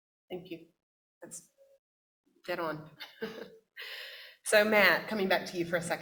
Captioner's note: chuckles